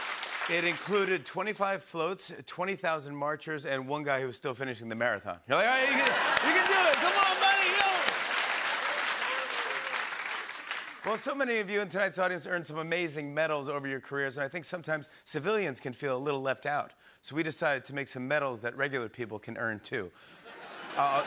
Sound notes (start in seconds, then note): 5.7 southern accent; 5.8 laughter; 8.3 cheering and applause; 20.4 laughter